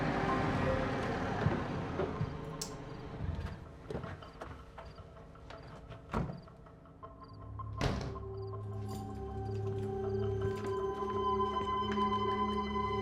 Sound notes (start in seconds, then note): 0.0 engine rumbling; 4.0 doors clicking; 7.8 door shuts; 8.7 keys jingling